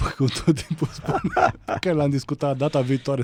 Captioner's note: laughter